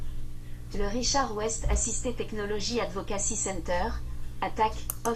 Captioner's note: speaking French